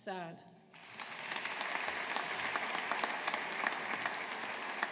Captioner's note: audience applauding